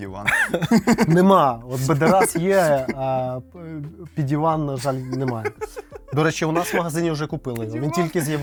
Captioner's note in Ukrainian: сміх; сміх